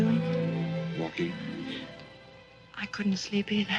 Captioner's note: Doris gasps